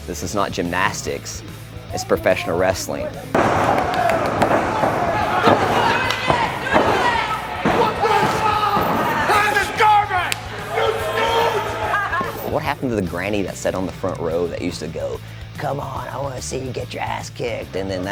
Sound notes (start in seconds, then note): 3.3 hitting sounds; 6.1 crowd cheering; 6.1 hitting; 8.2 crowd cheering; 10.3 claps; 12.0 laughing